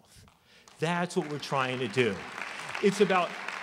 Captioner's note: applause